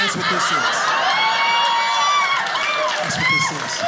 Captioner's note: audience laughing